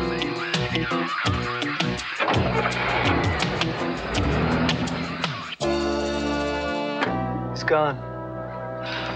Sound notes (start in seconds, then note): 2.1 engine starting